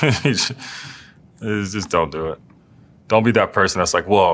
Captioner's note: laugh